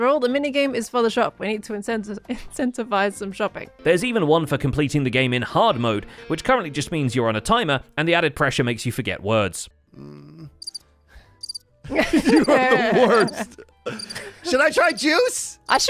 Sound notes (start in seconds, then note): 11.4 imitates crickets; 11.9 chuckles